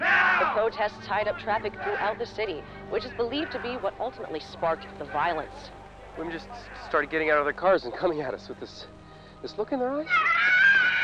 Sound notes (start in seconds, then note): 7.5 woman screaming